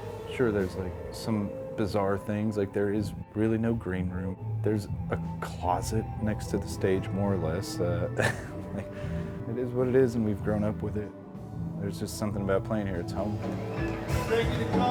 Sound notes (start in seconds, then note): 6.6 laughs